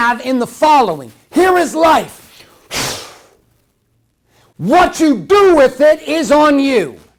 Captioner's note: exhales